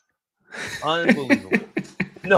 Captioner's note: laughs